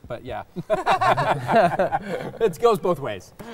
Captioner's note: all laughing